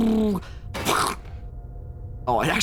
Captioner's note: makes airplane noises; clang; makes explosion noise